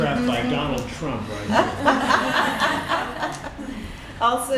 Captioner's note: laughter